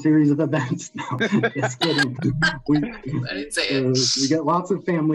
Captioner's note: everyone laughing